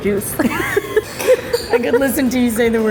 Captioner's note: laughing